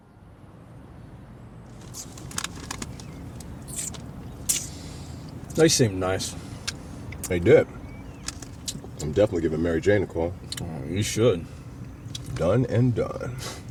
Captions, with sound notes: (city traffic) (eating) They seemed nice. They did. I'm definitely giving Mary Jane a call. You should. Done and done.